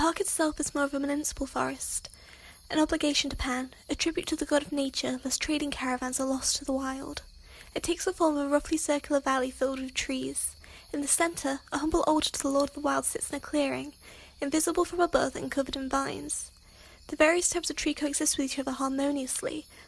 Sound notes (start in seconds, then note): none